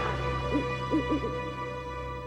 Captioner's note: owl hoots